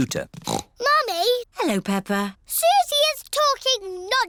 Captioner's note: snorts